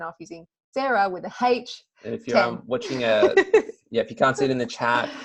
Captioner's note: laughter